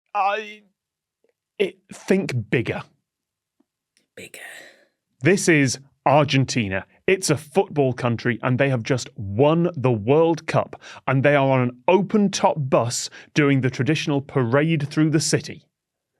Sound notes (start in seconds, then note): 3.8 whispers